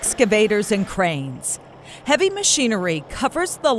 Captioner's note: engine revving